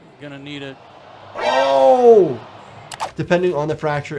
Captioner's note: crowd cheering